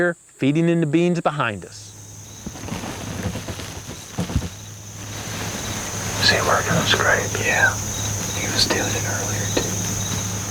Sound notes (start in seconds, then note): 3.5 whispering